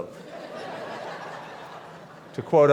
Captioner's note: laughter